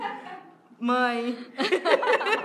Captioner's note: laughs